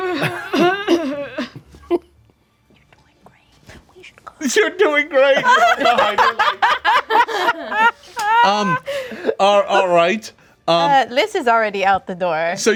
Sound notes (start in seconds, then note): 0.1 coughing and clearing throat; 3.0 whispering; 5.2 group laughing